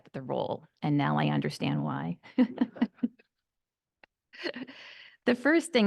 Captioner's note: laughing